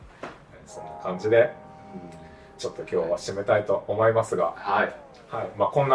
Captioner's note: laughs